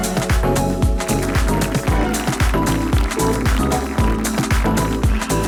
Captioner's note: audience applauding